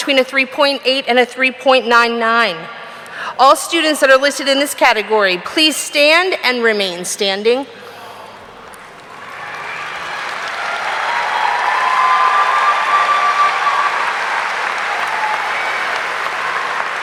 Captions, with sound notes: between a 3.8 and a 3.99. All students that are listed in this category, please stand and remain standing. (audience cheering) (audience applauding)